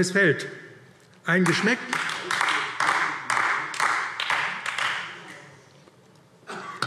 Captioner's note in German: Beifall AfD